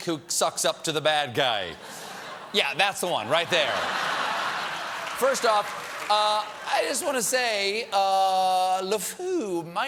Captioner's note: laughter